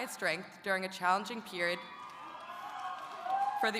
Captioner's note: audience cheering